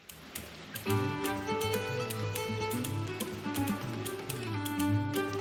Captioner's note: sounds of rain out window